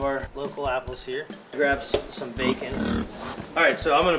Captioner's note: snorting